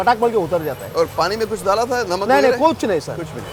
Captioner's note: speaking in foreign language